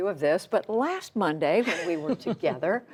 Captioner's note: laughter